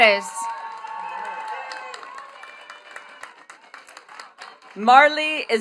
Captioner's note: attendees cheering and clapping